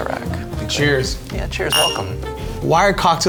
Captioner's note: glasses clink